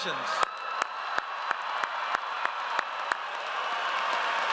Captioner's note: audience cheers